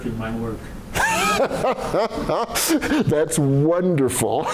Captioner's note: laughter